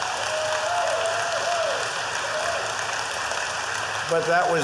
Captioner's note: applause